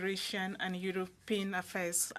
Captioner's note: speaking French